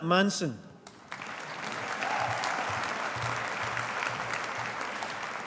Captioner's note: audience applauding